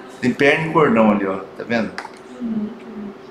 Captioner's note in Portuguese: murmúrio de afirmação